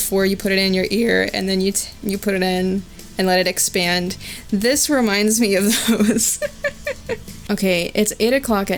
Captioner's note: chuckling